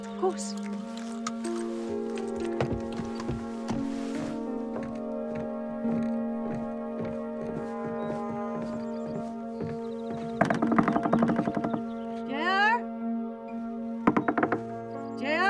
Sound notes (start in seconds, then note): 1.0 somber music; 6.4 footsteps thumping; 10.1 Ruth knocking on door; 14.0 Ruth knocks on door